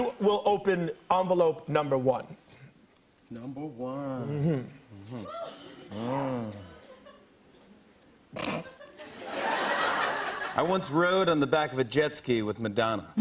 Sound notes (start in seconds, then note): 5.3 snorts; 10.1 laughter